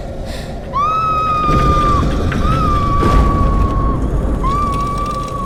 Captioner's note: Christina screams; gears clicking